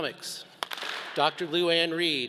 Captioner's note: all clap